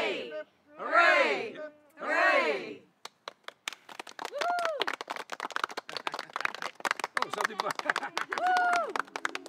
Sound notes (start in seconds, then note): 3.0 group clapping